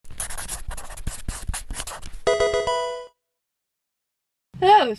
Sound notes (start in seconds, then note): 0.0 pencil scratches; 2.3 level up music